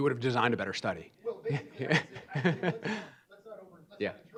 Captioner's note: chuckles